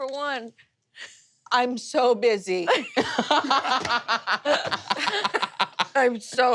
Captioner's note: players laughing